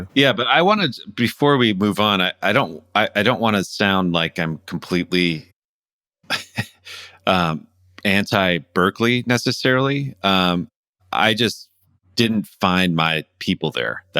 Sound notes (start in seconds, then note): 6.3 laughter